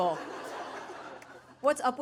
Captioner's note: audience laughing